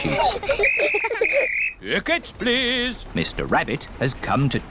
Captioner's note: blows whistle